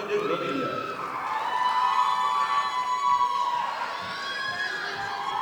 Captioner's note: audience applauding